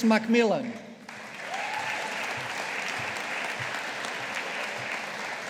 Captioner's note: audience applauding